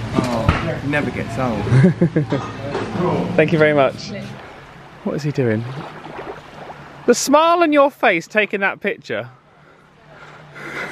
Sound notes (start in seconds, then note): 3.4 water lapping softly